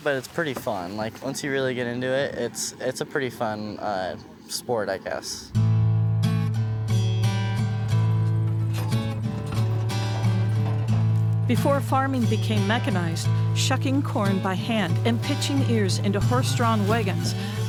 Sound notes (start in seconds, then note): 9.2 guitar music; 10.4 wagon clatters